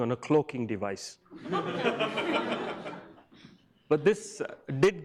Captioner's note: audience laughs